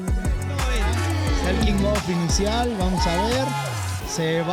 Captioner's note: Spanish